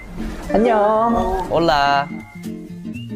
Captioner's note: greeting In spanish